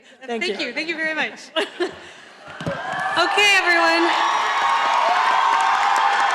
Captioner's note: audience applauding